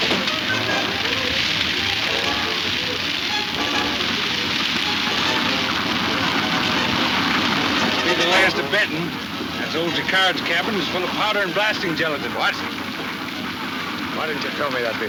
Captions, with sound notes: (wagon rumbling) - It will be the last of Benton. That old Jacard's cabin is full of powder and blasting gelatin. - What? Why didn't you tell me that before?